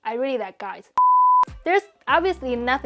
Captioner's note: beep